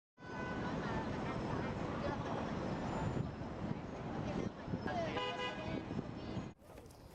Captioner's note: city noises